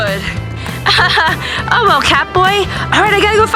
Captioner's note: laughs